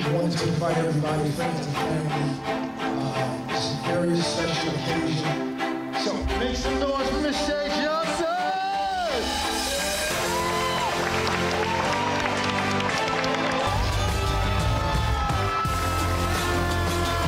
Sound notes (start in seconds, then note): 0.0 warm string music; 8.0 crowd cheering and applauding